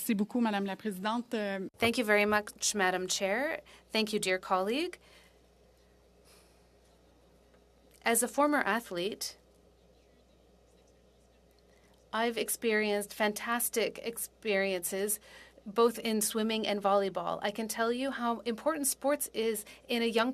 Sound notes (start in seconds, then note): 7.0 speaking French